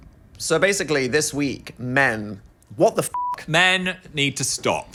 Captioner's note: beep